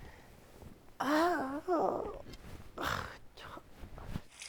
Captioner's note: moaning